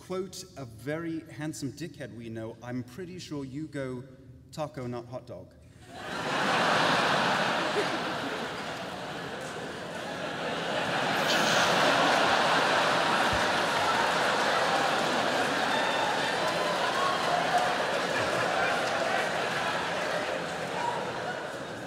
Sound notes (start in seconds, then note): 5.9 laughter